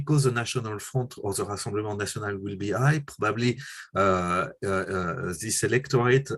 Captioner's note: french